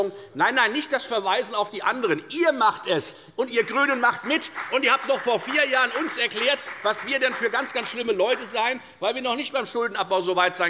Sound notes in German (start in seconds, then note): 3.7 Beifall bei der FDP